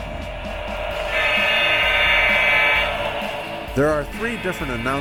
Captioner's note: diesel horn blaring